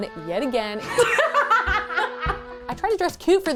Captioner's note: laughing